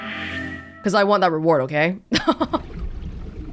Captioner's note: chuckles